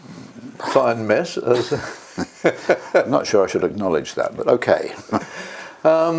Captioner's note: laugh